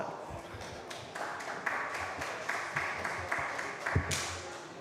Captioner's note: applause